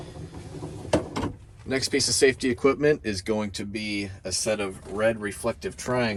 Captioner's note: door opening